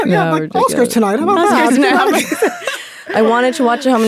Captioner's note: all laughing